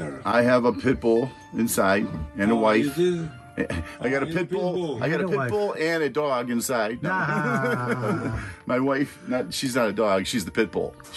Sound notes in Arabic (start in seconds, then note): 7.0 يضحك بصوت عالٍ